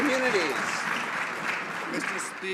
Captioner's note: some Applause